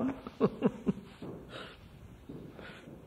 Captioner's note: laughs